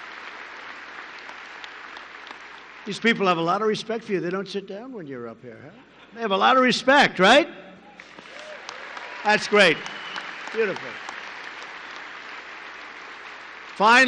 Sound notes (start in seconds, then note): 5.7 laughter; 7.9 applause